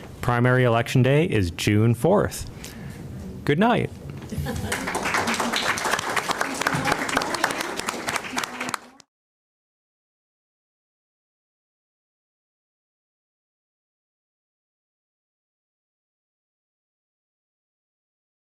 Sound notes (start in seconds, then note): 4.5 applause